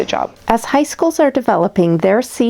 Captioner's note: voiceover